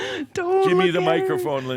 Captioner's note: chuckling